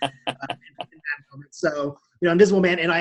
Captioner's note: laughing